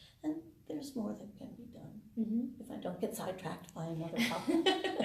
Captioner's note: laughter